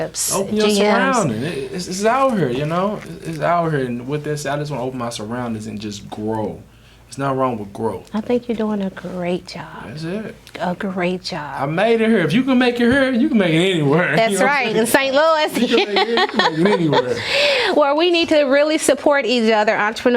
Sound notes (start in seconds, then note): 15.2 Mary laughing; 15.5 Lamont laughs